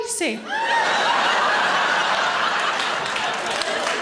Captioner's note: audience laughing